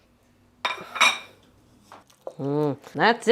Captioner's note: dish clinking